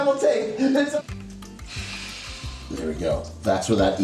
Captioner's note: gas mask breathing